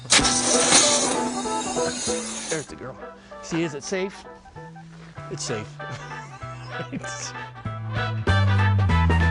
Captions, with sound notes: There's a girl. See, is it safe? It's safe. (laughs)